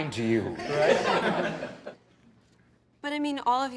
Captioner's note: laughter